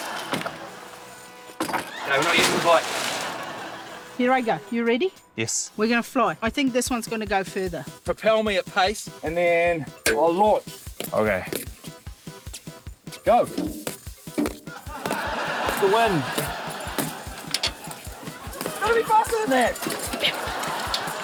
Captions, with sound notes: - OK, we're not using the bike. - Here I go. You ready? - Yes. - We're gonna fly. I think this one's gonna go further. - Propel me at pace, and then I'll launch. - OK. - Go! (LAUGHTER) The win! Gotta be faster than that!